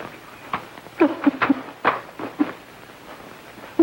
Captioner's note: sobbing